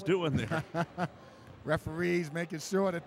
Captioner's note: laughing